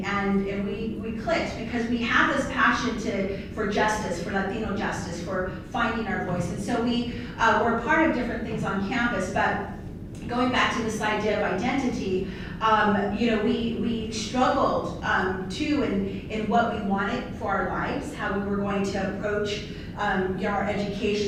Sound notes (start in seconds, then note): none